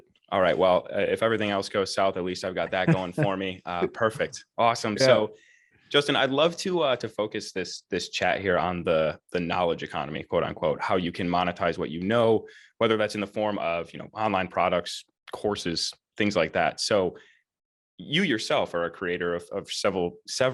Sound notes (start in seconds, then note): 2.7 laughs